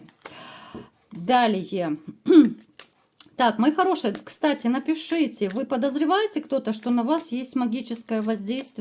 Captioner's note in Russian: откашливается